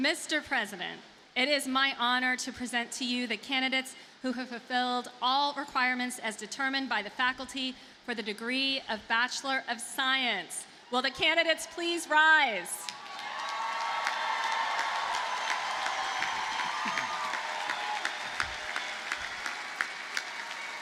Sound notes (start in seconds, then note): 12.8 audience cheers and applauds